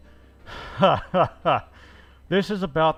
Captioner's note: laughing painfully